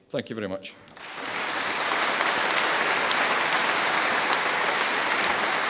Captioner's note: audience applauding